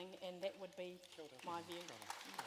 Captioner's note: applause